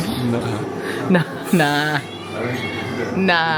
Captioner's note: laughing